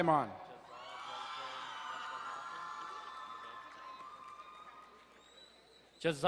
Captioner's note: crowd cheering and applauding